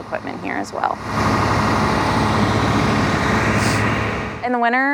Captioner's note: machine noise